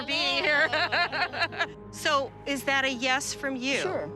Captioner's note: laughs